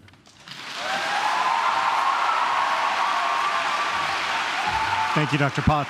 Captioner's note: audience clapping and cheering